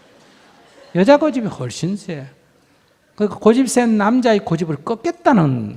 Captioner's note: audience Laughter